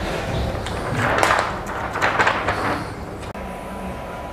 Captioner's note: PET film noise